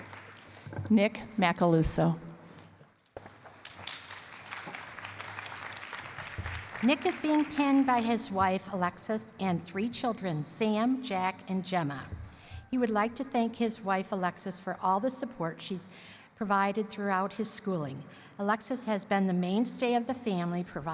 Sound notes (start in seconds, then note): 3.2 applause